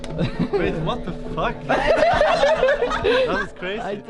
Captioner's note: all laughing